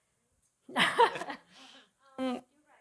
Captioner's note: panelists laughing